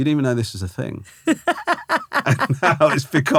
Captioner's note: laughing